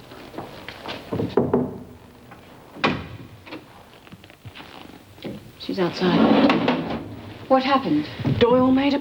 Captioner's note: knock